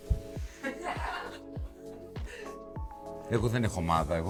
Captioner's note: laughter